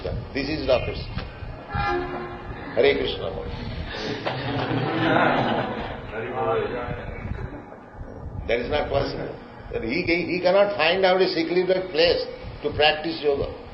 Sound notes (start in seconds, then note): 3.9 laughter